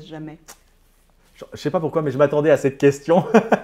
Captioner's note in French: Rire